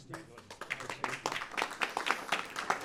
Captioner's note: applause